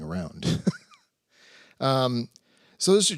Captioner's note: laughs